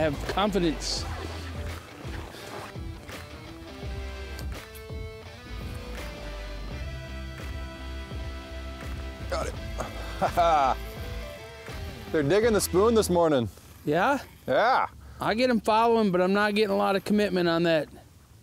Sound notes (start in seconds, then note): 1.6 rock music; 9.6 laughs